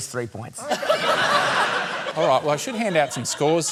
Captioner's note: laughter